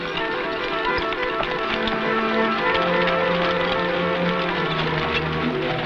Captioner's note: horse hooves pattering